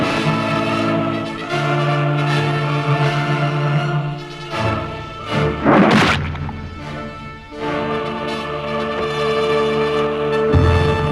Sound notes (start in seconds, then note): 5.6 blood squelching